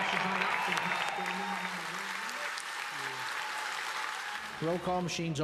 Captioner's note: cheers and applauses